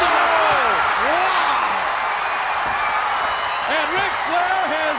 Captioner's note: audience cheers